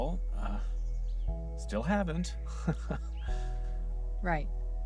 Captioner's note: nervous laugh